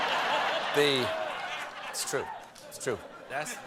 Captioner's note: laughter